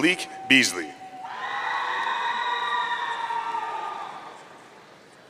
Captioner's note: audience cheering